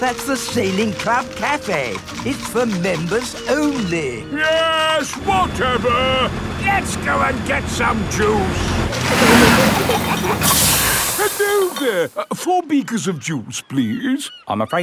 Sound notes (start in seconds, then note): 9.0 air hisses; 9.1 peppa and george giggling